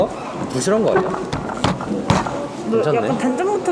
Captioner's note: Thud